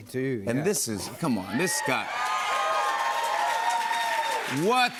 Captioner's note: cheers and applause